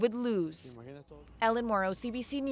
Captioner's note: speaking spanish